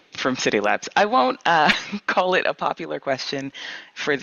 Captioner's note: laughs